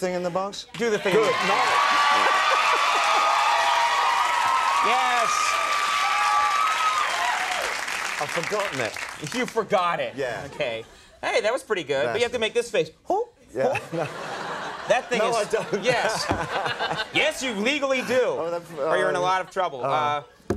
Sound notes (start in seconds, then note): 16.8 laughs